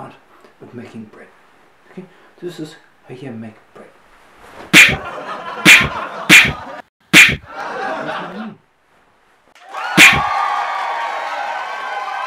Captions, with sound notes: art of making bread this is how you make bread hit hit (laughter) hit hit where's my MONEY??!! hit (laughter, cheering) starring Richie Zarmajian